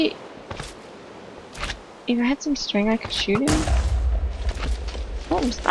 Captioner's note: loud explosion